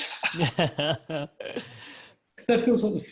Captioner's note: both laugh